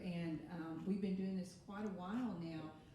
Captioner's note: none